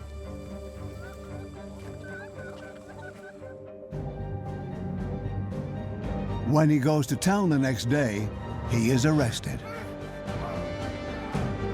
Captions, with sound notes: (chickens clucking) (suspenseful music) When he goes to town the next day, he is arrested.